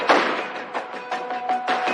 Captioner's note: gunshots